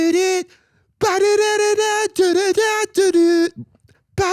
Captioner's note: singing high-pitched nonsense; continues vocalizing